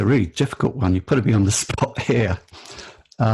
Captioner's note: laughs